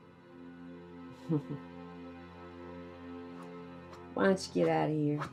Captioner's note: Betsy chuckles